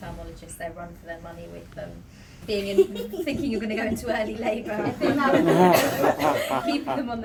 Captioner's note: laughter